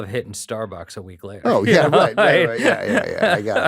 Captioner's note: chuckles